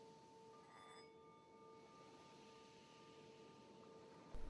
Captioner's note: soft bell ringing